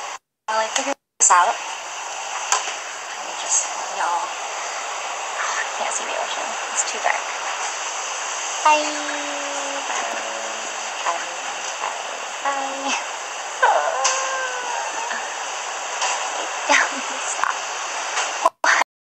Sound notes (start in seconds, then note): 7.2 background ocean sounds; 13.5 background ocean sounds; 13.6 laughs; 17.6 background ocean sounds